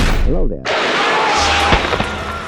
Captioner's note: inhuman roar